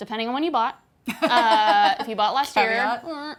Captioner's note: laughing